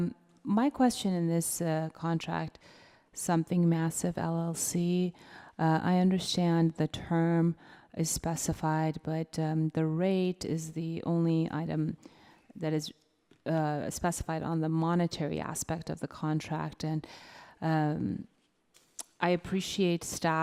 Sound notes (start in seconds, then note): none